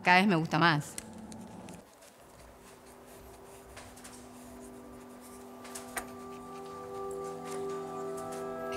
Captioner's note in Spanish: sonido de lápiz sobre papel